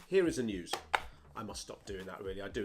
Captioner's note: taps papers